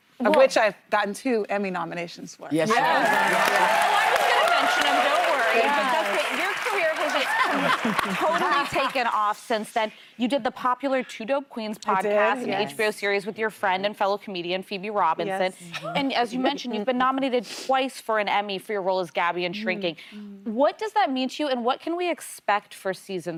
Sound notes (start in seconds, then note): 7.4 applause